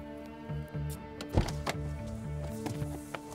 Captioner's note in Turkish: Kapı açılma sesi